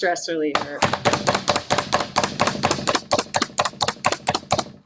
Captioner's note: chopper slamming